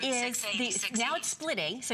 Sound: electronic voice

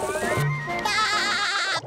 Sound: laughing

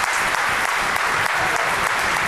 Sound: applause

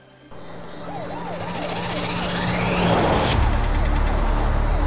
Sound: siren wailing

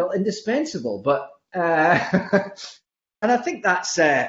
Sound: laughs

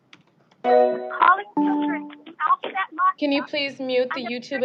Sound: distorted audio continues

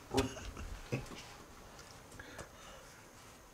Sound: trying not to laugh

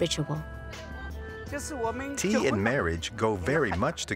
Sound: speaking Chinese

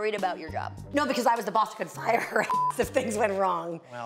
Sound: beep

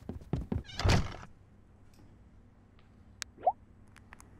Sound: door closes

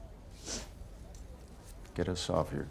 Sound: Billie sniffs

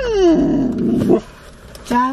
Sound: whining; growl; ruff

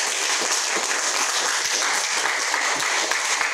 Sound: applause

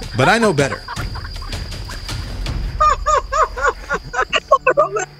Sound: people laughing; laughs

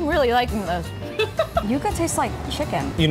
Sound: laughs

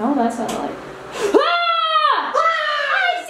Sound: yelling

